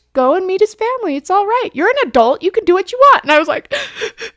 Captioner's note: sobbing